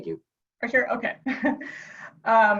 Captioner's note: laughs